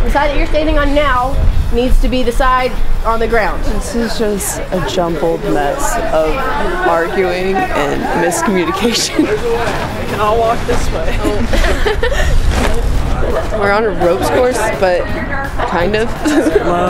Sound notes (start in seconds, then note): 11.1 laughter